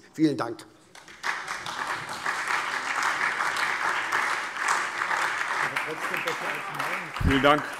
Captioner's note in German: Beifall SPD, vereinzelt BÜNDNIS 90/DIE GRÜNEN und Freie Demokraten